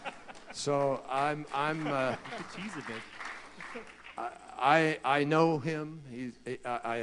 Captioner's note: laughter and applause